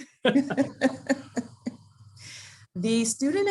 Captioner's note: laughs